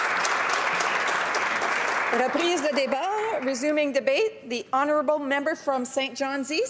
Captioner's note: applause